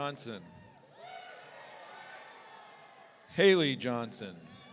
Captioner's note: audience cheering